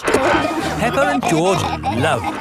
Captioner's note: peppa and george laughing